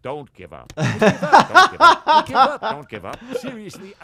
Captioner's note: laughs